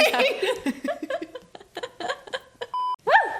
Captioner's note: laughs